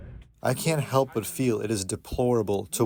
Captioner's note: through translator